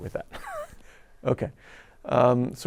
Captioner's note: chuckles